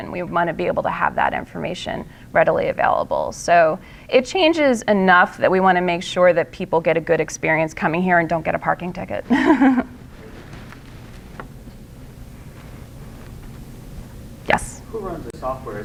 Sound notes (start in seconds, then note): 9.2 laughter